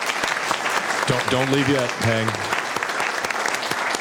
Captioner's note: applause